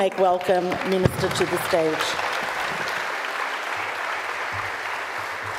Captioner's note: audience applauds